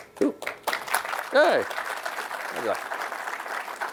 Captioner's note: applause